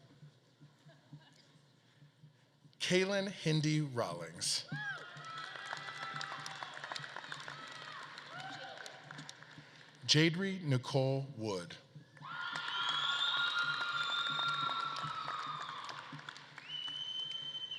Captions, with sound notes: Kalin Hendee Rollings. (audience claps and cheers) Jaedri Nichole Wood. (audience claps and cheers)